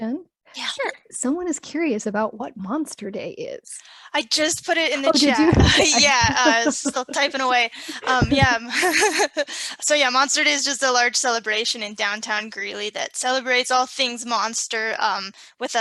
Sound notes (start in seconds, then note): 8.2 laughs